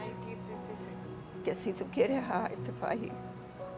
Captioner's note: foreign language